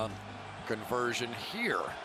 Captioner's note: cheering